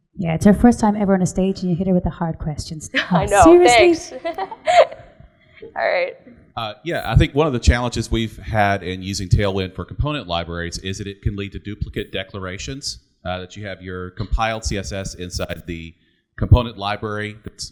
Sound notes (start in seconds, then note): 2.9 laughs